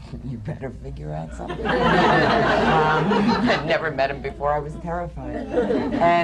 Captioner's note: laughter